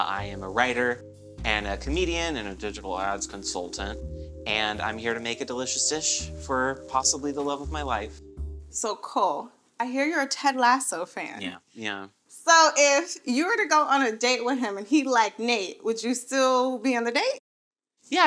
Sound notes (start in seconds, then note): none